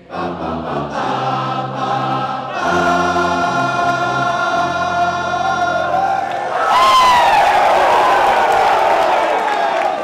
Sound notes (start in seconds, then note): 0.0 chanting rhythm; 5.4 cheering